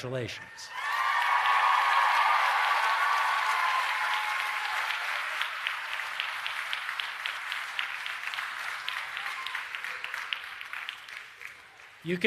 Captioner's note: applause and Cheering